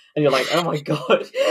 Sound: laughing

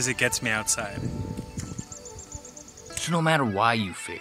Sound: birds singing

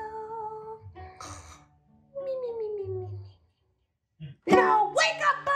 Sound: snoring sounds

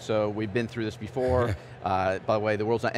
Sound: laughing

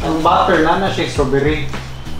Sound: speaks in foreign language

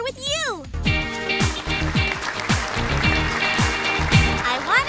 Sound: upbeat music; crowd clapping

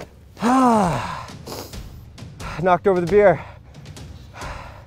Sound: groans; dramatic music

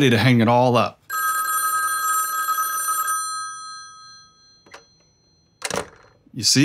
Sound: the phone rings once. the receiver is picked up and hung up

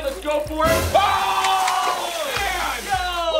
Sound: screams

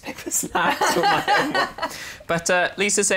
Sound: laughs

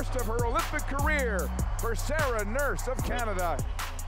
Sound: cheers and Applause

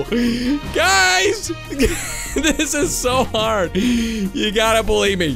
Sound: laughing

